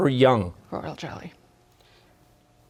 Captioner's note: whispering